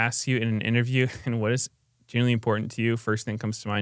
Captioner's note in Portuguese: risos